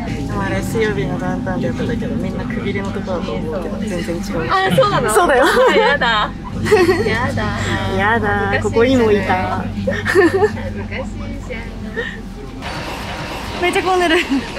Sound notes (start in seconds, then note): 11.0 laughs